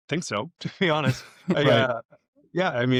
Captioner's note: both laugh